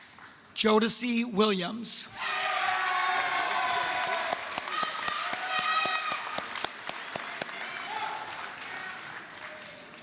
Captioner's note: applause, cheering